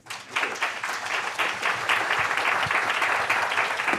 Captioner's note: audience applauding